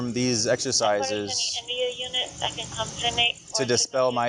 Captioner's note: radio chatter